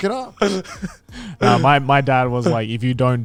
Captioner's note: laughs